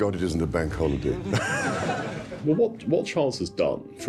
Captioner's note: laughter